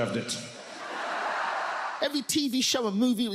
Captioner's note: audience laughs